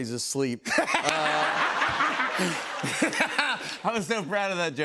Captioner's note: laughter